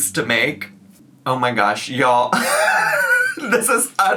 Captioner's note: laughs